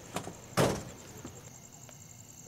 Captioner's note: Car door opens; Car door closes